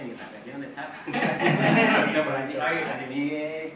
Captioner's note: laugh